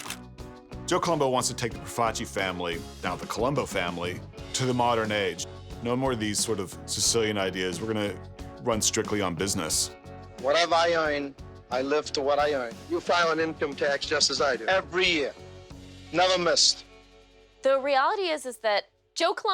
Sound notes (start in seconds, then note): none